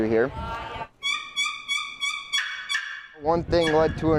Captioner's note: turkey-calling sounds